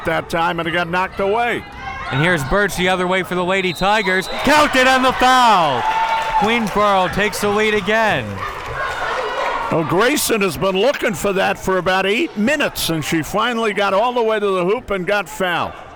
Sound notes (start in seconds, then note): 3.6 whistle tweeting